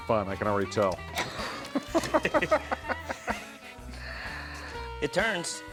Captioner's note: laughter